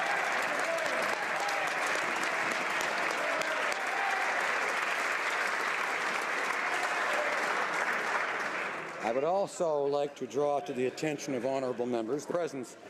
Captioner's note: applause